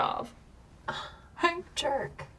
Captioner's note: Claire scoffs